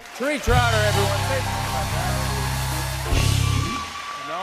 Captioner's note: cheers and applause